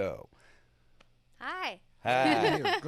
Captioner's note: laughs